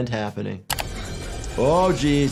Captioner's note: mechanical whirring